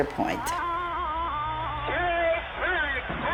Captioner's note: pat